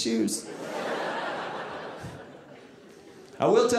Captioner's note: audience laughing